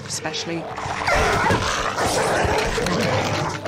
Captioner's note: both snarling